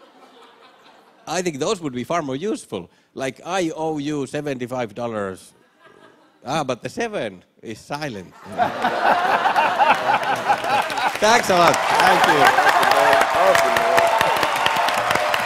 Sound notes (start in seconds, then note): 0.0 light laughter; 8.3 laughter; 12.2 cheers and applause